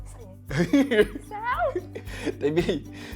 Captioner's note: laugh